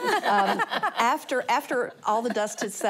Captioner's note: laughter